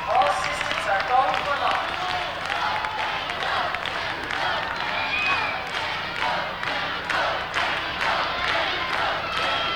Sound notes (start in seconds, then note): 2.0 crowd applauds; 2.9 crowd